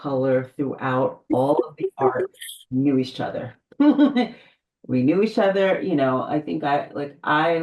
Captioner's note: laughs